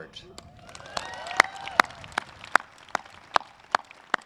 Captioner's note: audience claps